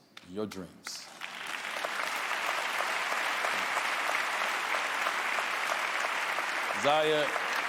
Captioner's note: applause